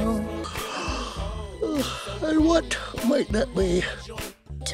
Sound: yawn

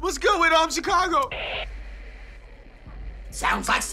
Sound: static

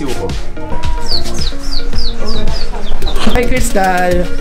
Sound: chirping sound

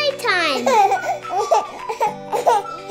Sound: children laughing

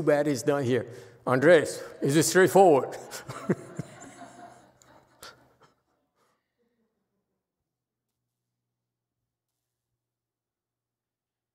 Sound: shifts eyes from side to side, laughs, audience laughs

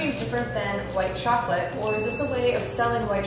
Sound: bell dings

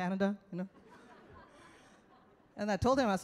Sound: audience laughs

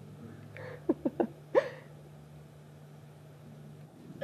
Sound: chuckles

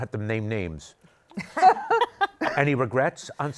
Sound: laughter

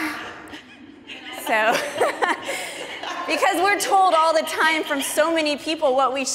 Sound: participant laughing; chuckles

